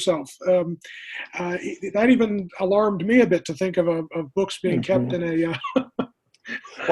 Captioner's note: chuckling